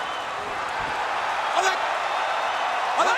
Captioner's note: crowd cheering continues